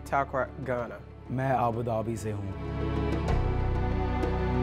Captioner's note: speaking foreign language